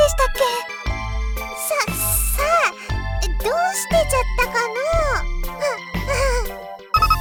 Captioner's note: awkward laugh